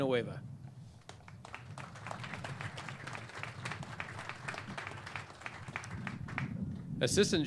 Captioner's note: clapping